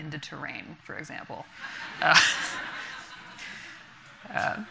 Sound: audience laughing

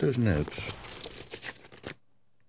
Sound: paper rustling

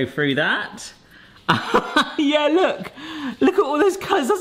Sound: laughs

